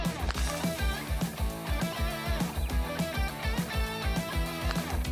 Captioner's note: lively music continues; paper crinkles; spirited music